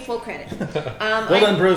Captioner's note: laughing